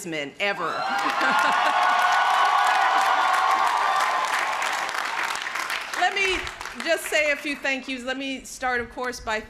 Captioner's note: crowd cheering